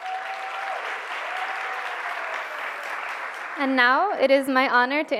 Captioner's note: cheers and applause